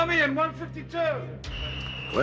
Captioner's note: whistling